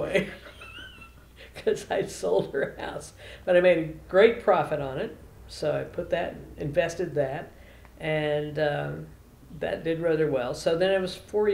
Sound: laughs

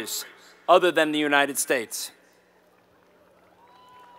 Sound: applause

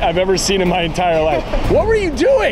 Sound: laughing

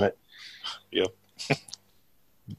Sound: chuckles

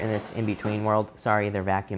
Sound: whooshing

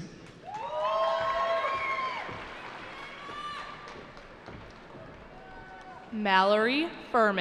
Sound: cheering

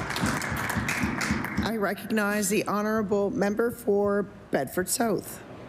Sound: applause

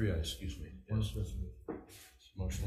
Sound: faintly speaking

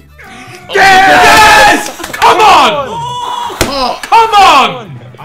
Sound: everyone celebrating

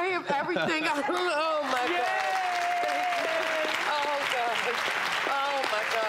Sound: applauding

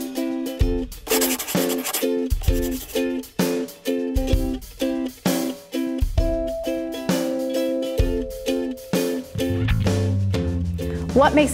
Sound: chalkboard scratching

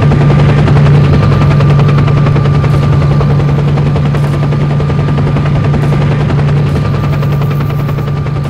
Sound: rotor noises

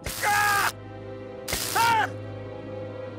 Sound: zapping

